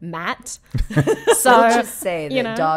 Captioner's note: laughing